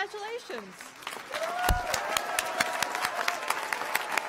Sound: applause

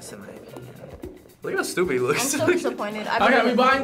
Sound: laughs

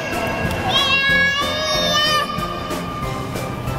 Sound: child yelling

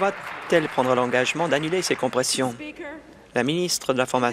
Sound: applause

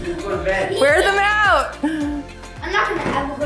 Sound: chuckles

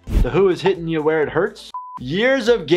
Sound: buzzer beeps

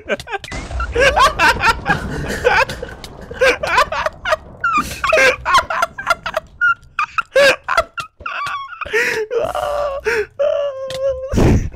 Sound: literally One minute of uncontrollable laughter

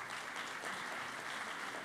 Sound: applause

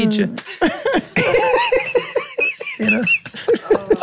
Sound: all laughing

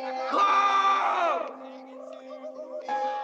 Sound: Duke screaming

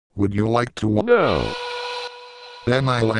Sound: whistle noise

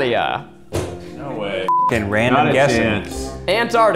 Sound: beep

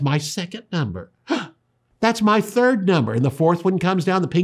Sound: gasps

